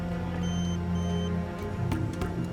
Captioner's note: device beeps